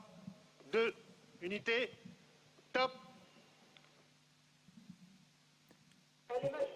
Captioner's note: speaking in foreign language